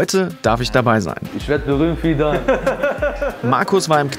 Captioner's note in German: Lachen